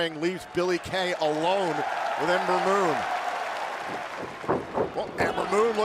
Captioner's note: cheers & applause